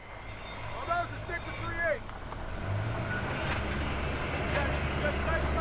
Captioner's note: man shouting indistinctly